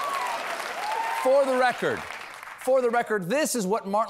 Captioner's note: cheers and applause